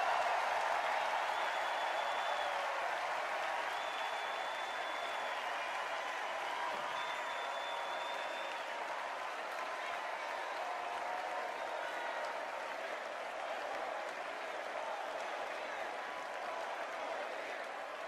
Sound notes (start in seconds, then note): 1.0 extended cheers and applause